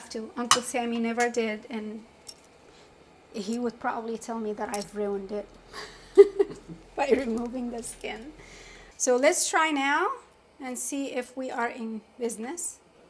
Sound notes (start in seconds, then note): 5.6 laughs lightly